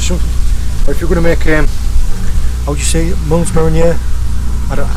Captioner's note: unconvincing French accent